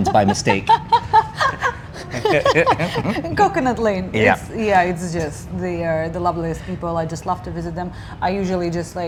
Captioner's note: laughing